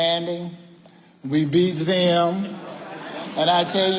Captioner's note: audience laughing